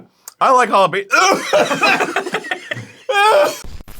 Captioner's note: everyone laughs; coughs; yells in pain